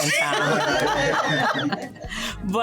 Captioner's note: laughter